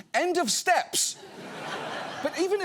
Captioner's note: audience laughs